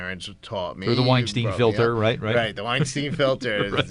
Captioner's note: laughs